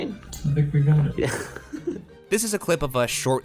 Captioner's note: laughs